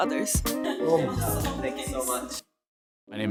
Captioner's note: laughing